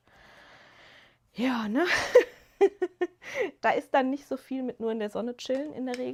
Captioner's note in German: gelächter